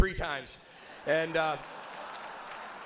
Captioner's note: audience laughs